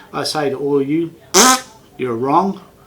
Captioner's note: blows tongue